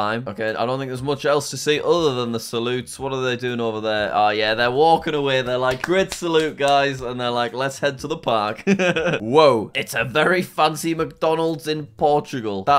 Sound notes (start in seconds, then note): 8.6 laughs